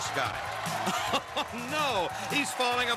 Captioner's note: laughs